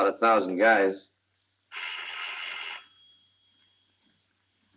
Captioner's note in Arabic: يرن الهاتف